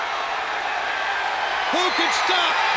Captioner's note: audience cheers